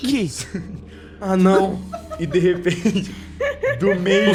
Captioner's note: Rakin laughing